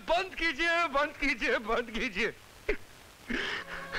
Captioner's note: Crying